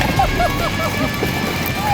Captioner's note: laughing continues